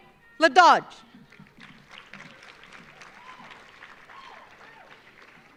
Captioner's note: audience applauding